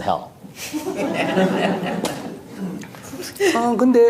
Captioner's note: audience Laughter